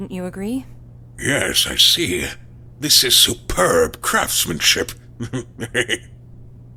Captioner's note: chuckle